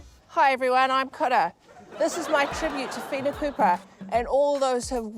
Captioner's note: laughter